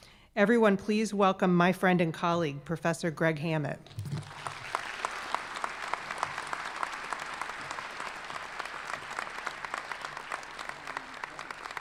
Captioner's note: applause